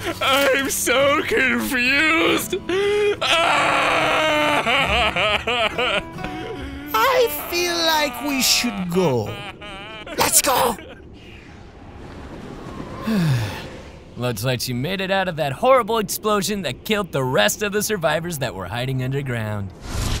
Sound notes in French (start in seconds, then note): 13.0 Soupir